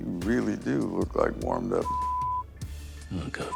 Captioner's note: beep